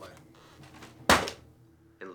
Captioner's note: folder slapping